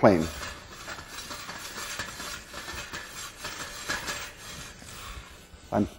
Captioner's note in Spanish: Tapa de metal rozando libremente